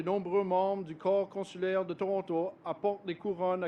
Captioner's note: speaks French